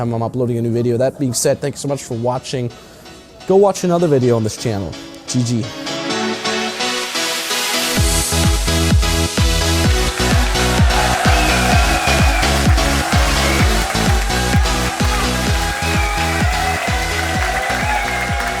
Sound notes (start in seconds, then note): 6.2 upbeat electronic music; 9.8 audience applauding and cheering